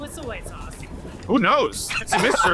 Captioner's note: laughs